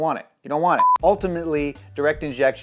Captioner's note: beep